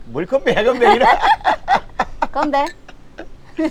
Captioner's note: both laughing